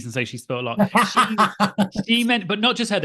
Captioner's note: laughing